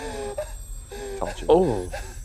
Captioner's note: Bruce weeps